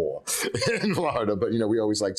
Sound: laughing

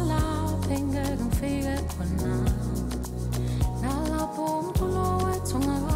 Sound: foreign language

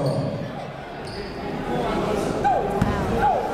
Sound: chatter

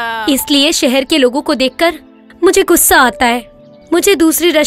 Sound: none

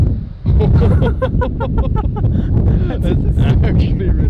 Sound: laughing

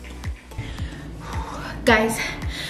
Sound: exhales

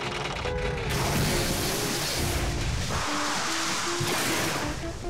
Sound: pipe straining; water roaring

